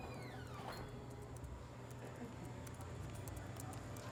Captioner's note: typing